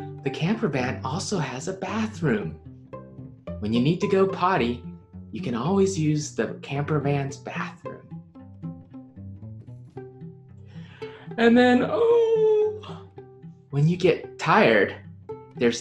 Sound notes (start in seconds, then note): 12.6 yawns